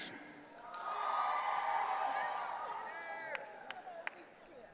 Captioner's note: audience cheering